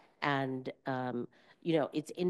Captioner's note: none